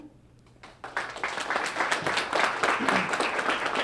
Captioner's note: applause